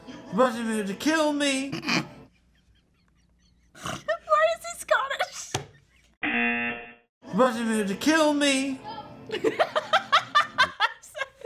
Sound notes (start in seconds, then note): 1.8 snickers; 6.2 buzzer; 9.4 laughs